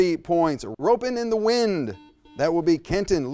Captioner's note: buzzer sounds